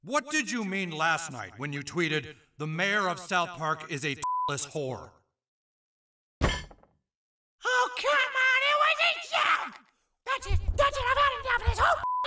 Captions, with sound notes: - What did you mean last night when you tweeted, "The mayor of South Park is a (beep) whore." (glass clinks) - Oh, come on! It was a joke! That's it, that's it I've had enough of this whole